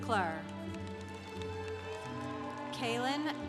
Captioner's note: congregation applauding